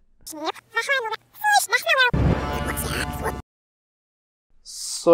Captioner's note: backwards audio sound